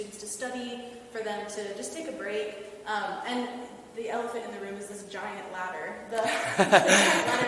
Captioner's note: both laughing